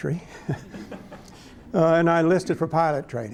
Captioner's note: laughter